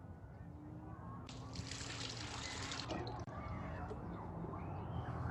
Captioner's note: water splashing